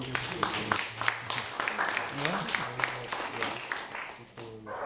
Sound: audience applauding

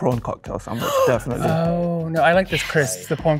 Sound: gasps

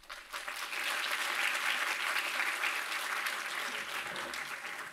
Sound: audience applauding

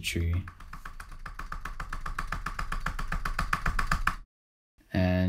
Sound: keyboard typing

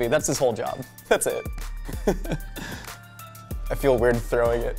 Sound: laughs

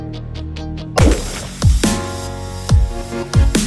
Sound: gunshot

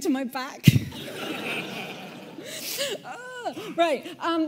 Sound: audience laughing

